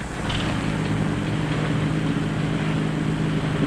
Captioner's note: engine rumbling